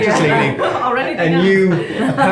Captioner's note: laughing